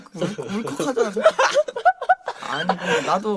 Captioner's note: evil dongsaengs laughing in the background